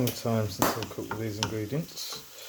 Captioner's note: pop!